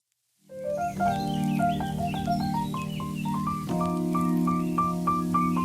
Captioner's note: gentle music; birds chirping